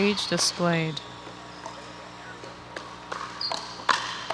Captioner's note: ball bouncing